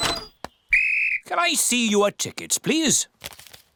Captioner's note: blows whistle